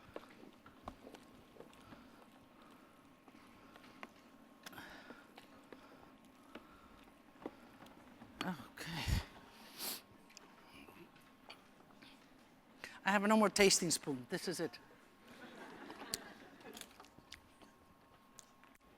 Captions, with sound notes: OK. I have no more tasting spoon. This is it. [LAUGHTER]